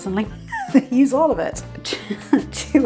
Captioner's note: laughs